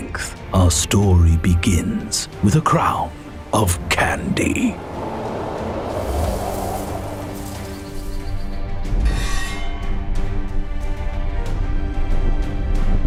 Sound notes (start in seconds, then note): 5.0 triumphant music; 8.9 metal grinding